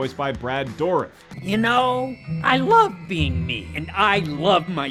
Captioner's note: bell rings